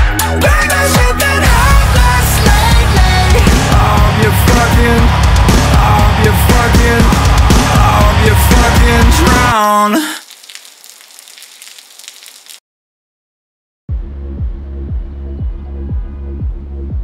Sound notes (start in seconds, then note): 9.8 rain pouring; 13.9 low upbeat music